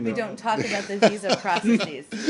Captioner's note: laughter